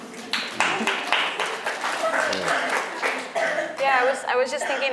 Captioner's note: audience applauding